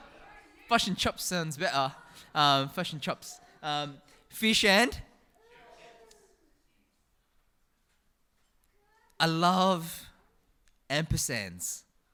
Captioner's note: new Zealand accent